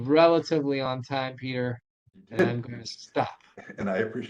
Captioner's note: laughing